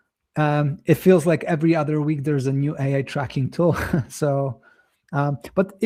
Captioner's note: chuckles